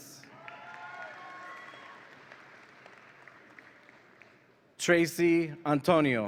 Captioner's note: audience applauds and cheers